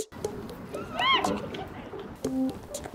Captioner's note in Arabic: تصرخ